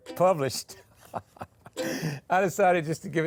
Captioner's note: laughing